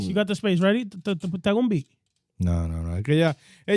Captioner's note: speaking In Foreign Language